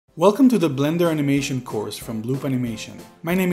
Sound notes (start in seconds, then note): 0.3 voiceover